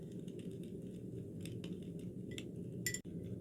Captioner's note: the sound of burning firewood